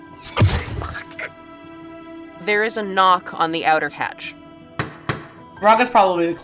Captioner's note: tapping